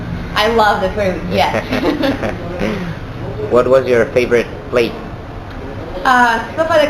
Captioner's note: laughter 00:02:00